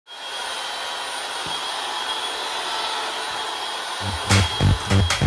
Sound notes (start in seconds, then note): 0.1 sound of Saw